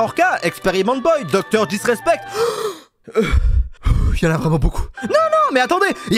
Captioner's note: takes a deep breath